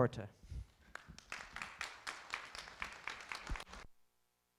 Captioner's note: applause